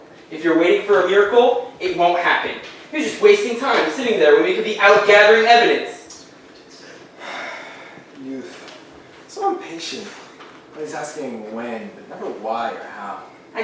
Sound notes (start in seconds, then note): 7.2 sighs